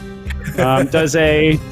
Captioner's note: laughs